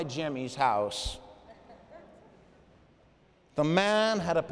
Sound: laughter

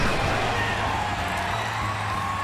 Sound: cheers and applause

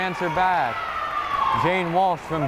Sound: crowd cheering

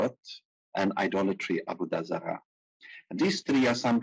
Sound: speaking in foreign language

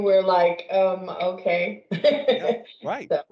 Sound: laughs

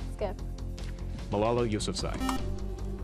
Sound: buzzer

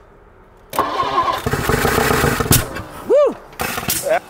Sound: engine struggles to start

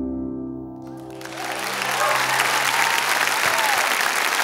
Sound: cheers and applause

